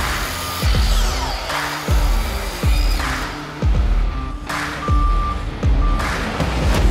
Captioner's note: power tools whirring; upbeat rock music